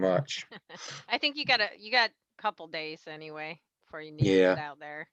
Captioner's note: laughs